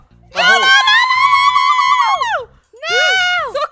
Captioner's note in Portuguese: grita